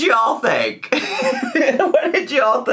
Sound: laughing

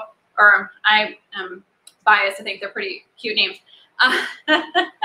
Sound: laughs

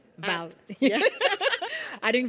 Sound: laughing

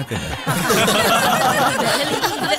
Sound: laughs

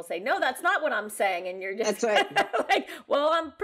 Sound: laughs

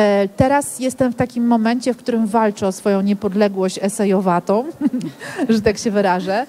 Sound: laughs

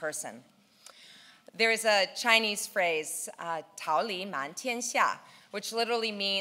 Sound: speaking in foreign language

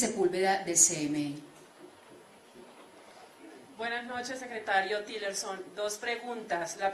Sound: in Spanish, via interpretation

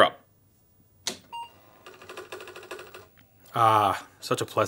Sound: clicking and beeping

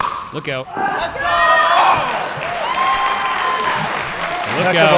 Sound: ball bouncing; audience cheering

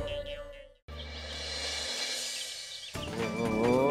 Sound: birds chirping

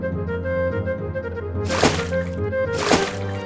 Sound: water splash sound

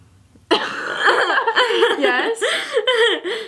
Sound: laughing

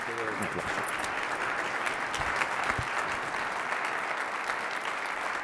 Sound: audience cheering

